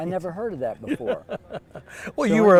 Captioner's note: laughter